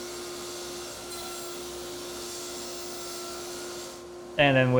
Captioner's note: table-saw continues buzzing